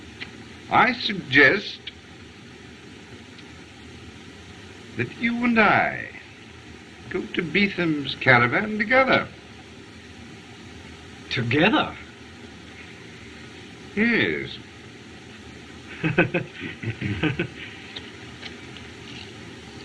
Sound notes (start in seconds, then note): 15.8 chuckles